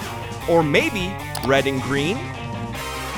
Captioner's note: none